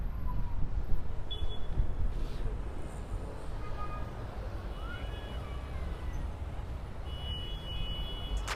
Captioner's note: intersection noise